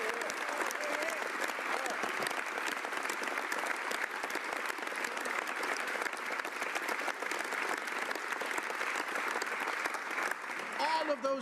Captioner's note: applause